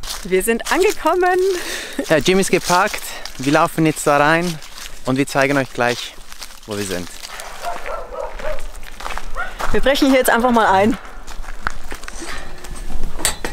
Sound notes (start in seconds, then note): 7.4 dog barking